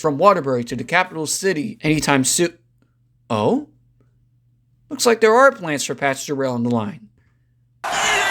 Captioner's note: cheers